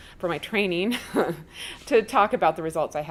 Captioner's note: chuckles